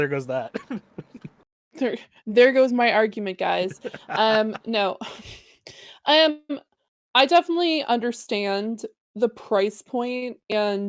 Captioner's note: chuckles